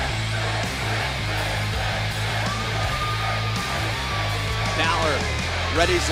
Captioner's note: fans chanting